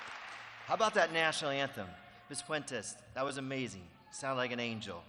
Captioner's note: applause